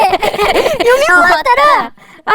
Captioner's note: laughing